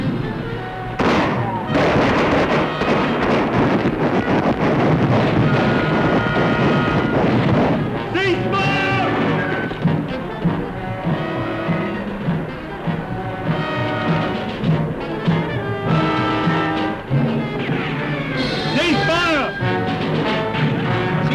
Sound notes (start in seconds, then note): 1.0 gunfire; 11.2 suspenseful music